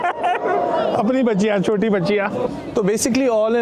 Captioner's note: laughing